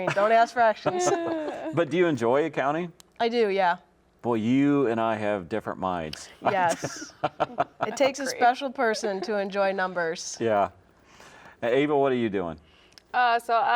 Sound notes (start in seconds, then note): 6.2 laughs